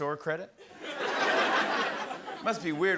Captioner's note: laughter